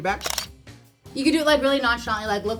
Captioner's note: camera shutter flips